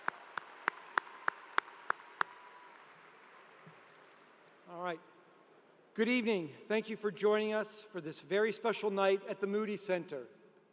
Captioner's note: applause